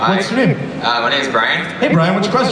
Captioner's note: voiceover